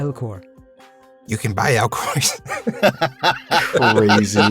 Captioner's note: laughs